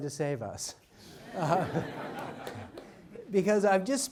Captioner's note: audience laughs